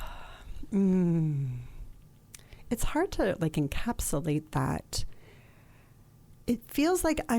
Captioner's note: sighs